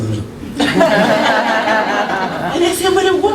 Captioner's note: laughter